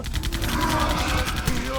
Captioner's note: gunfire